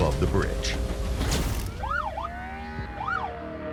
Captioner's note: police siren